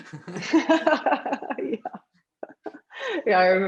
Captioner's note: both laughs